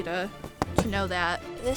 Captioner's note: taps fabric loudly